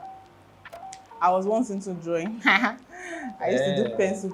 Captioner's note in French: rires